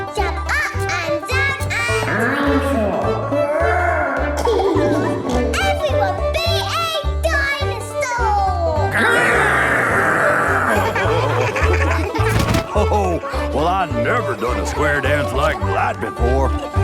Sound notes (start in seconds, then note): 2.0 laughing; 8.9 laughing